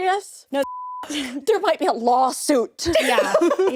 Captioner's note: beep